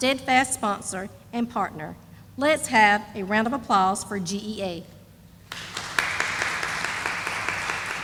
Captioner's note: sound of applause